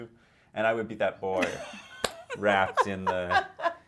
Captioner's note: laughing